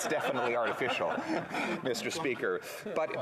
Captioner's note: laughter